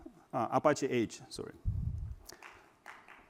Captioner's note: applause